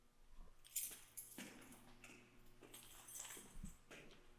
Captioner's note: keys clanging